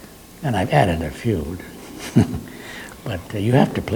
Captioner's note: laughs